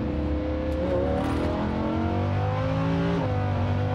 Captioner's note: engine revving